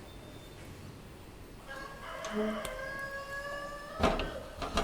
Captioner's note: rooster sounds